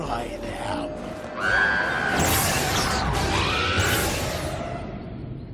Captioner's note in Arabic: صراخ